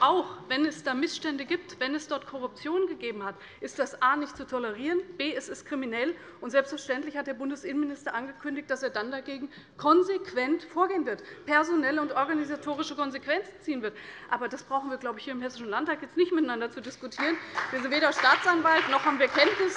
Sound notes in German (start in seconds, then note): 17.1 Beifall bei der CDU und dem BÜNDNIS 90/DIE GRÜNEN